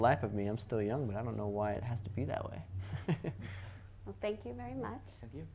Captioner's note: laughs